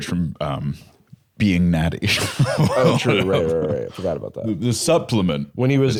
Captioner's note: laughs